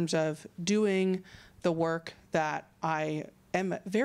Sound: none

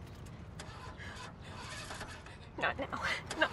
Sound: engine chugs

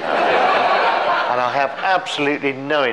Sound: all laughing

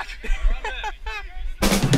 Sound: laughter; upbeat rock music

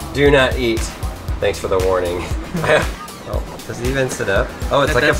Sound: laughs

